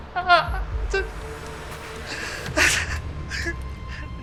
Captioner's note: Clive sobbing